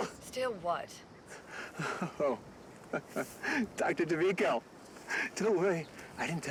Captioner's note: laughs